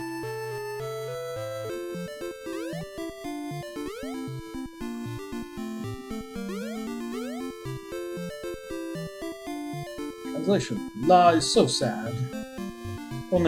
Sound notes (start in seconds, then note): none